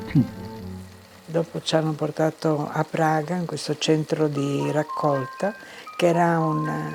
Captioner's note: speaking in foreign language